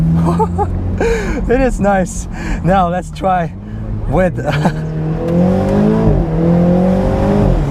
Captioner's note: engine reving